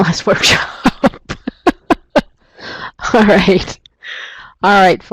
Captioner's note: laughs